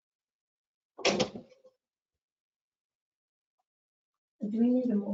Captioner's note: object clatters